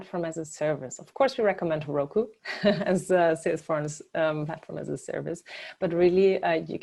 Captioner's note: laugh